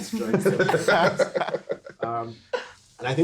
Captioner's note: everyone laughing